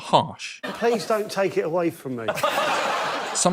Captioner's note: laughter